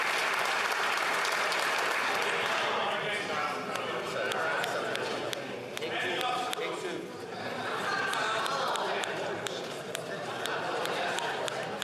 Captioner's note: applause